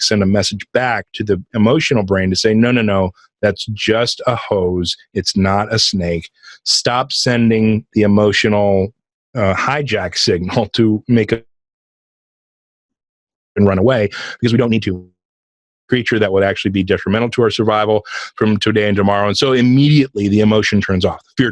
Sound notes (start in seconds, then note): 10.4 laughs; 11.8 voice distorting; 15.2 voice distorting